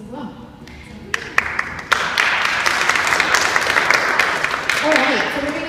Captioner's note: audience clapping